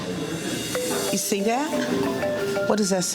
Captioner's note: phone rings